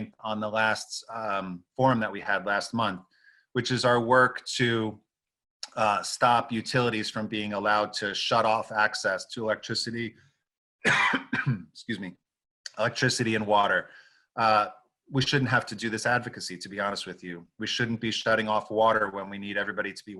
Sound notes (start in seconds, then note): 10.8 coughs